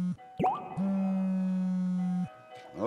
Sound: vibrating

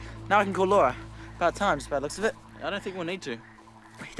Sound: kissing sound

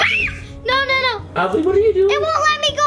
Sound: screams

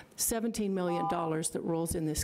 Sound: buzzer rings

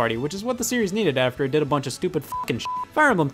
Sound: beep

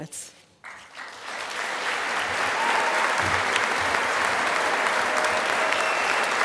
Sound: applause

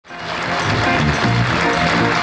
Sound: crowd applauding; upbeat music

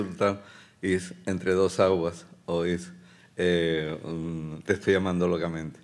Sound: speaking Spanish

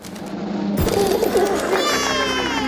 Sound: cooing

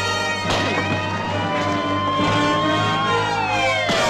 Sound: sirens wailing

